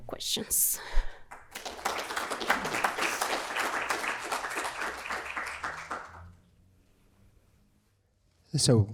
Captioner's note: applause